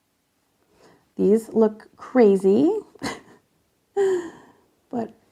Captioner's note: laughs